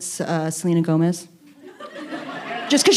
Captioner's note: audience laughing